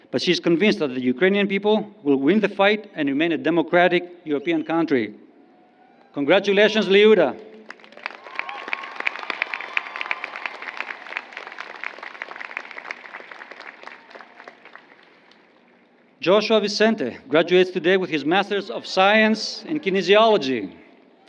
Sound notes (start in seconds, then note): 11.6 applause